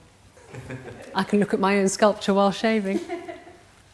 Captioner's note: laughter